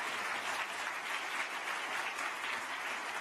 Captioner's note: applause